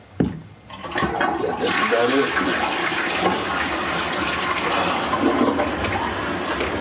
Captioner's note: toilet flushes